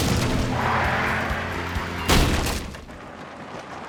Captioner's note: gate crashing; tires squealing; car crashes